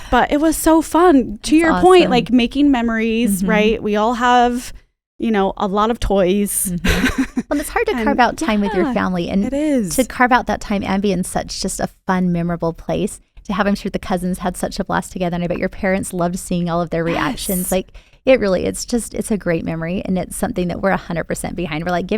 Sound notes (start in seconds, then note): 8.0 laughs